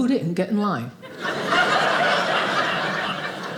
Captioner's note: audience laughing